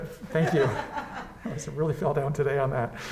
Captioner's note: woman laughs